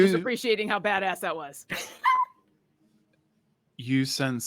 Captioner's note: laughs